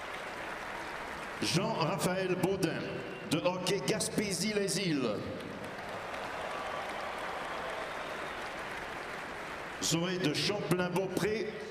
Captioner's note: cheering and applause